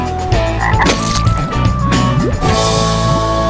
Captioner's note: frog croaks